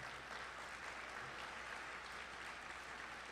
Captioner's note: applause